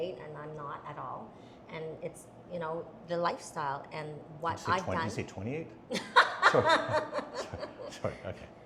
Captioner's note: laughs